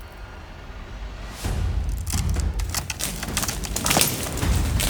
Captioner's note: tree crackling